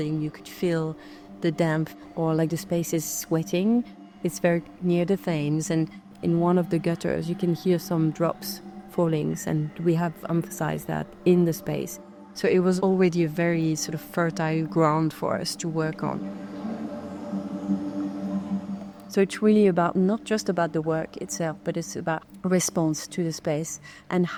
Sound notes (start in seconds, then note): 16.6 pensive music continues; 16.6 water dripping